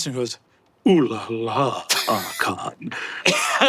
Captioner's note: Murph laughs